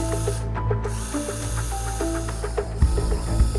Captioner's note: drill whirring